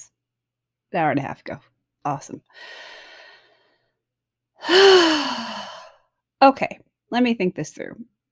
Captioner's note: sighs